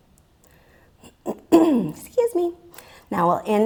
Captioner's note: clears throat